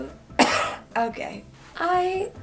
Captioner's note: coughs